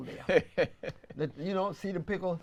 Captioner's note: laughs